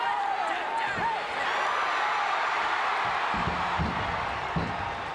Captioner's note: crowd cheering